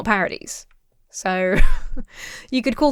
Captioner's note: laughs